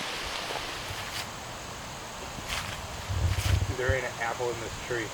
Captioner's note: wind